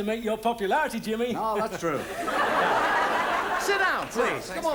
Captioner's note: audience laughs